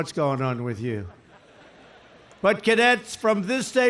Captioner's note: laughter